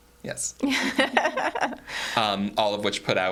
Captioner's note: all chuckling